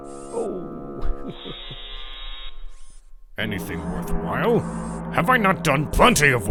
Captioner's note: Pohatu chuckles